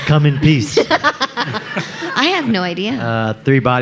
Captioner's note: laughing